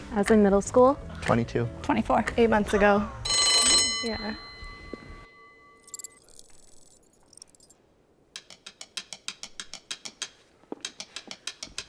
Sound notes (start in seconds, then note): 3.3 bell ringing